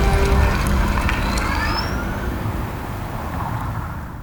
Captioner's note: engine purrs